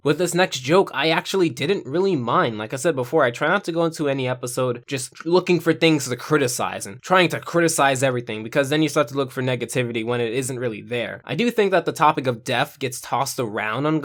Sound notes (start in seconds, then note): none